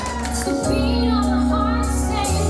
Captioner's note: applause